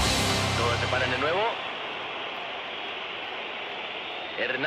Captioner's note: music concludes, crowd roars